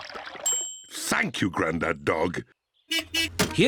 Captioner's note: bell dings; horn beeps